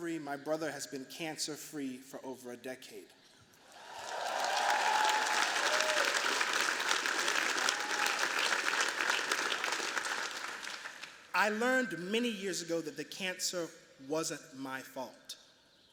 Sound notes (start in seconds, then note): 3.6 cheers, applause